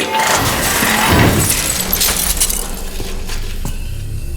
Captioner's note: clattering